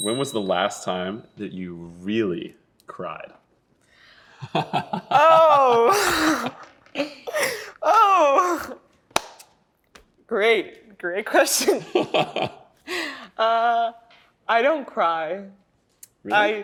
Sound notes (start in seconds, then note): 4.4 laughing; 5.4 gasps; 11.5 laughs